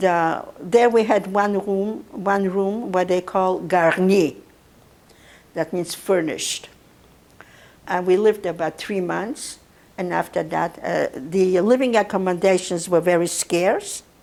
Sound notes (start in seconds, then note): 3.3 non-english